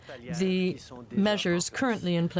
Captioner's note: speaking French